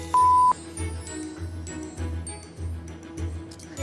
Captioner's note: beeping